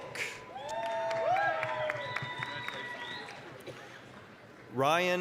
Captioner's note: applause, cheering